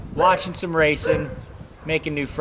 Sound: dog barking

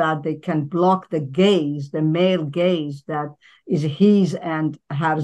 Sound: speaking in foreign language

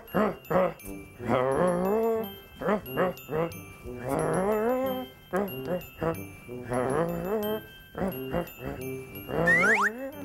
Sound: grunting melodically

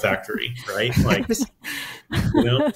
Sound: hosts chuckling

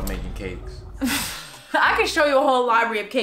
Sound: laughing

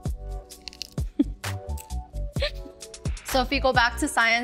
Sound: laughs

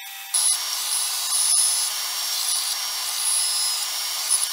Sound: band sander whirring

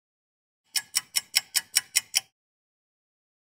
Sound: sound of a ticking clock

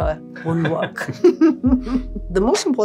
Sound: laughing; staff laughing

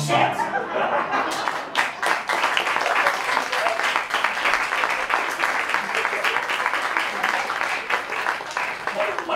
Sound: applause

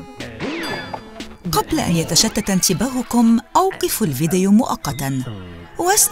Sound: ding!; grunting nervously

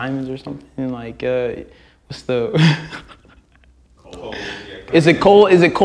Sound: laughs

